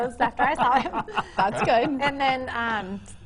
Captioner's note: laughing